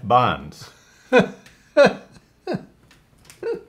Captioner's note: laughs